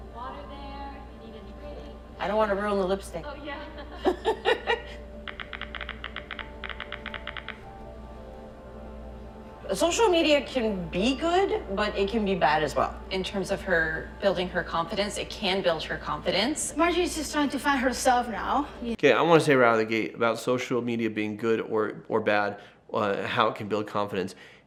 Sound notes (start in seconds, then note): 3.6 laughs